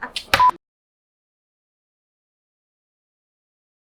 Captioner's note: laughing